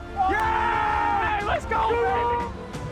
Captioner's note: both yell